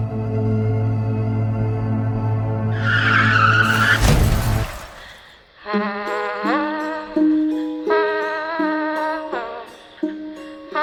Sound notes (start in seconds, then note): 0.0 soft eerie music continues; 2.6 tires squeal; 2.7 vehicle crashes; 2.9 glass shatters; 5.7 singer vocalizing; 5.8 light bouncy music